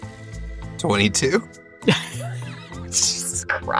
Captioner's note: HANS chuckles